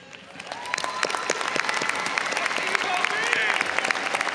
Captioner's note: audience applauding